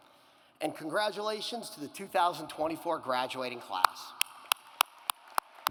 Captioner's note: claps; audience applauds